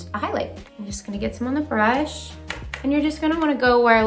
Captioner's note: taps brush